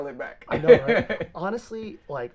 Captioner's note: laughs